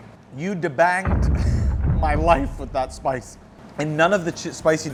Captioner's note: explosion booms